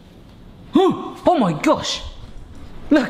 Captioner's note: suddenly gasps